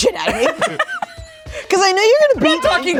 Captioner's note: everyone laughs